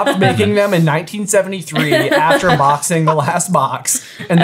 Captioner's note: laughing